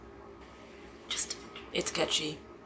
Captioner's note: whispers